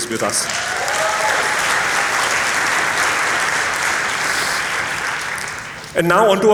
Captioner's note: applause